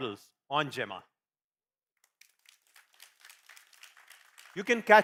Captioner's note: applause